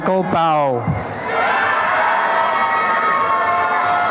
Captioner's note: applause and cheering